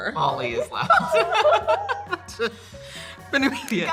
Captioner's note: laughing